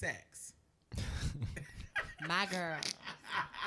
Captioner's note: podcasters laughing